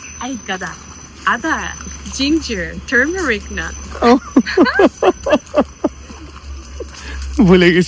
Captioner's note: loud laughter